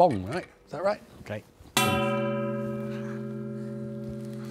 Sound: gong blares

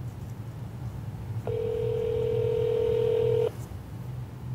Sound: phone ringing

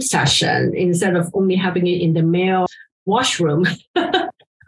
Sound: laughs

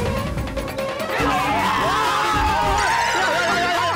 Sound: yelping

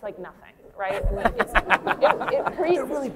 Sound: laughter

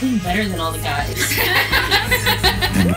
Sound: women laughing

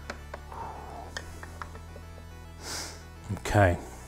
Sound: phew

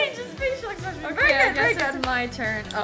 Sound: applause

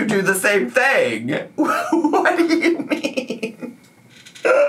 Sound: laughs

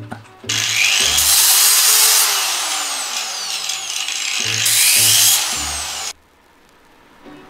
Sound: angle grinder noises

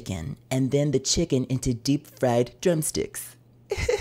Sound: laughing

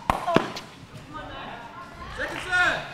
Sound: players chattering

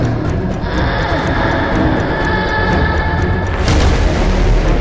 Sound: sighs

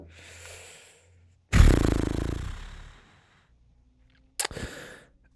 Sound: blowing lips

